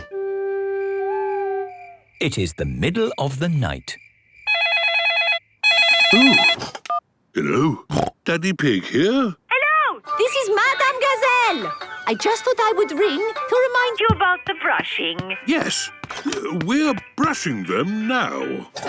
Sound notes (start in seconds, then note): 0.9 owl hooting; 5.6 phone ringing; 7.8 snorting